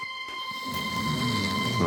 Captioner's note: snoring